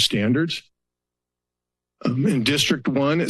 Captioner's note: pause